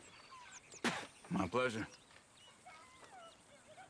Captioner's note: spits